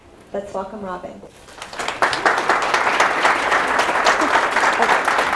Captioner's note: applause